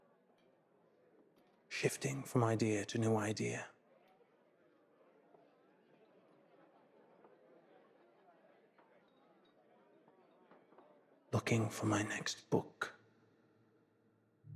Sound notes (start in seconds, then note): 5.1 people chattering in background